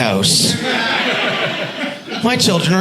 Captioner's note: audience laughing